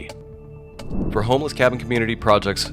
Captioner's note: air whooshes